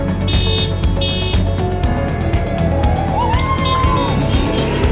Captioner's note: horns honking; crowd cheering